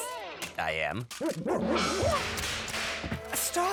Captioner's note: clyde gibbers tauntingly